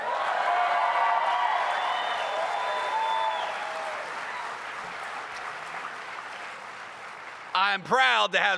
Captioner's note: cheers